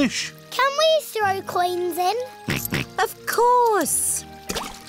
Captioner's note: snorts